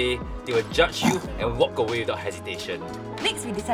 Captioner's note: deer grunts in disgust